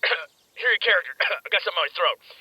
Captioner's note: cough